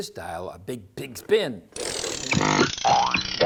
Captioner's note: CRANKING noise; silly factory noises